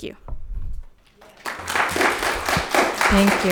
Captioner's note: audience clapping